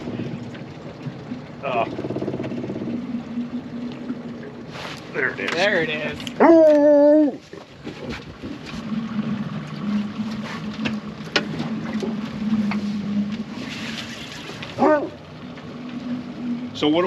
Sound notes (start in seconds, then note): 3.9 boat engine running; 14.8 dog barking; 15.9 reel cranking